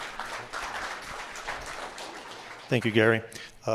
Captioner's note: applause